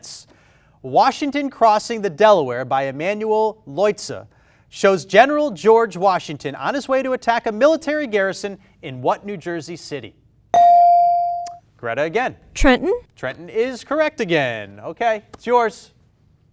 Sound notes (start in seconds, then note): 10.5 bell dings